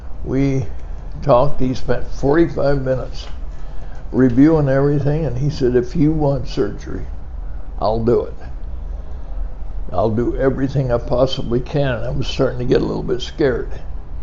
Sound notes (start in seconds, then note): none